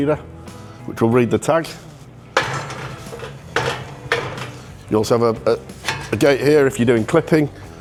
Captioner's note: gate rattles